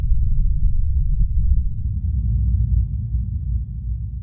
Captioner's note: low rumbling humming